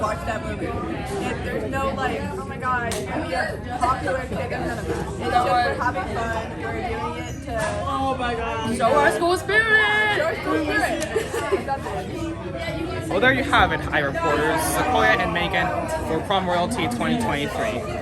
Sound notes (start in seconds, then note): 10.7 chuckles